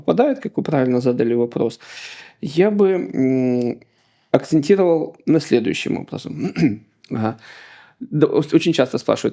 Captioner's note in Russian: откашливается